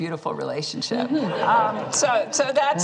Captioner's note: laughter